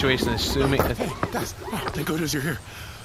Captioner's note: running up, panting